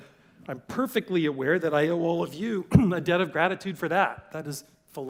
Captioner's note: cough